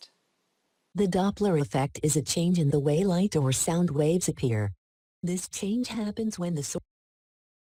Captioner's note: text to speech reading article out loud